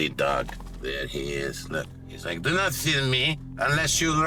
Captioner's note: accented